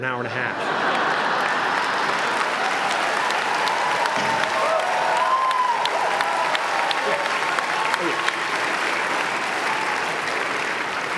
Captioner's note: applause